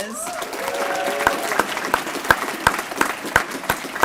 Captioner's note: applause